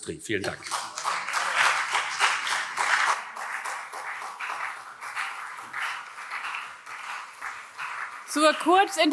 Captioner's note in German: Beifall CDU und vereinzelt SPD